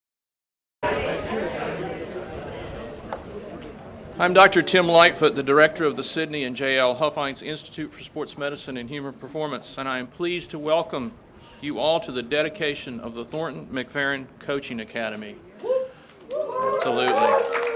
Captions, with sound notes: (crowd chattering) - I'm Dr. Tim Lightfoot, the director of the Sydney and JL Huffines Institute for Sports Medicine and Human Performance, and I am pleased to welcome you all to the dedication of the Thornton McFerrin Coaching Academy. (crowd cheers) Absolutely.